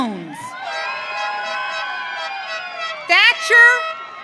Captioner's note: audience cheering